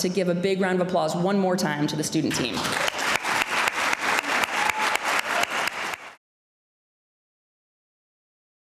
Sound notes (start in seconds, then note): 2.5 applause